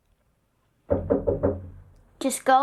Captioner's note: knocking